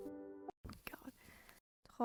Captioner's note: whispered